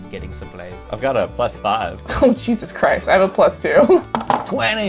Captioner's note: laughs